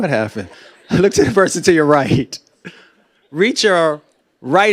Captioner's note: laughter; laughing